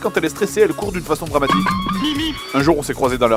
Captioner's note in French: bruitages "Bip-bip & Coyote"